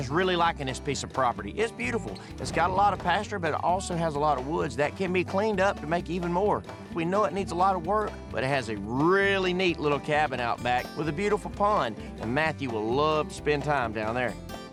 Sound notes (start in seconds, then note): none